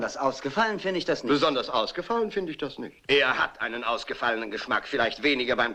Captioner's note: imitates English accent